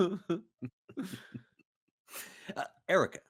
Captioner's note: Cornette laughs; game Master laughs